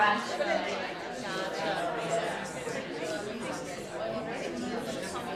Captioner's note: excited conversations